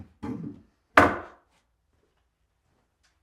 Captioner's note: wood bangs